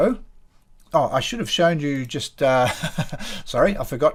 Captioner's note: laughs